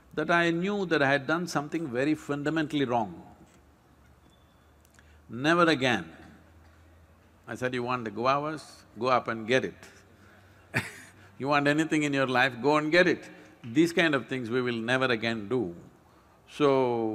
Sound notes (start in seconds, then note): 10.8 laughs